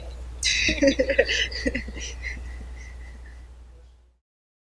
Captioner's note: laughing